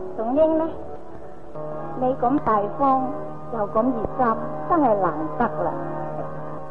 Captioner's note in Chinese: 夏帆以粵語